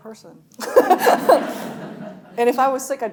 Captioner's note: laughing; audience laughing